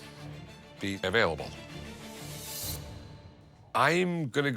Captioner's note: none